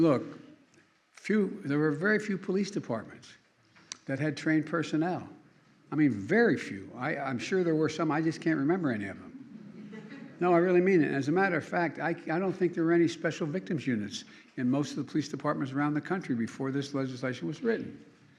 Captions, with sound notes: Looking, few -- there were very few police departments that had trained personnel. I mean very few. I -- I'm sure there were some, I just can't remember any of them. (Laughter.) No, I really mean it. And as a matter of fact, I can't -- I don't think there were any Special Victims Units in most of the police departments around the country before this legislation was written.